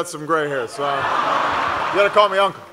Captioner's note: laughter